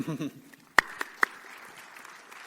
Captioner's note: audience claps